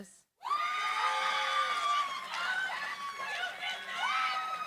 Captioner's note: cheering, applause